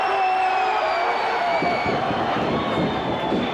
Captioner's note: cheers